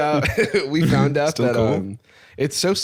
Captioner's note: laughs